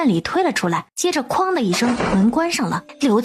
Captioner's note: bang